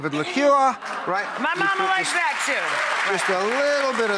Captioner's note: applause